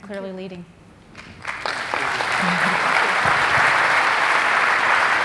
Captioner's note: audience clapping